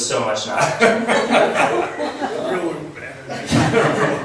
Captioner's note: laughs